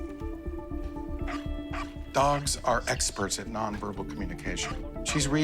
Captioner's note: Stella barking